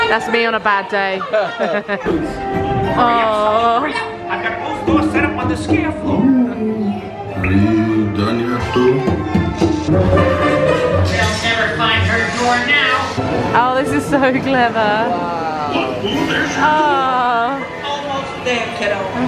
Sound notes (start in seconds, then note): 1.0 laughing; 6.3 door knocking; 10.4 door knocking; 11.1 dramatic music